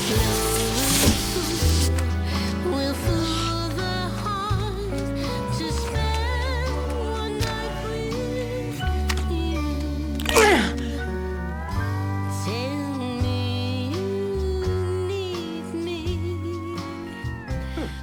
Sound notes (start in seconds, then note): 0.1 thunk; 10.3 loud crunch